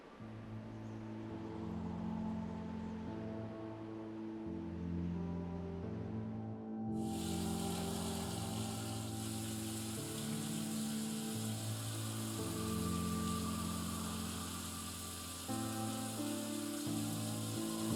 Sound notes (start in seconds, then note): 0.2 instrumental music; 7.0 water pouring from the tap